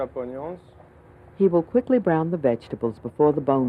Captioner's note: voiceover